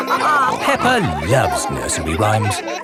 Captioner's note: all laughing